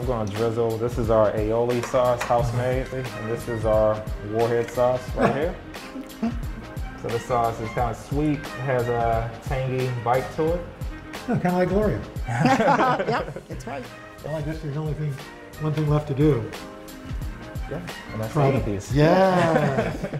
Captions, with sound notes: I'm going to drizzle, this is our aioli sauce. House made. This is our warhead sauce right here. This sauce is kind of sweet. Has a tangy bite to it. - Kind of like Gloria. (laughter) - Yep! That's right. - One thing left to do. - Gonna eat these. - Yes!